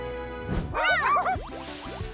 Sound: barking

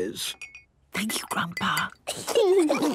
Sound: Granny whispering; children giggling

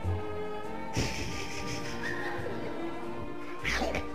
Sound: laughing

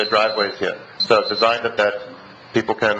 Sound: alarm beeps

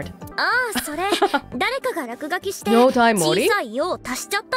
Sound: chuckles

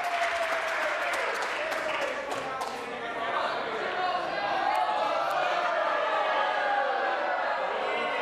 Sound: some Applause

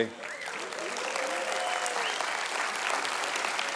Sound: applause

